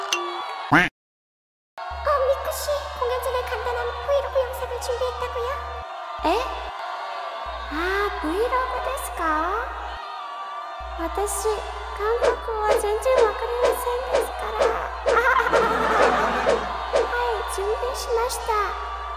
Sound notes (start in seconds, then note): 15.2 laughing